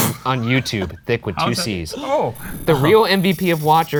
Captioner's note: laughing